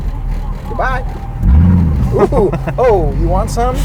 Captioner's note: engine revving